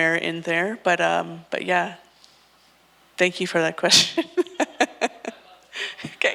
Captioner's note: laughs